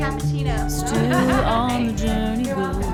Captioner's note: laughing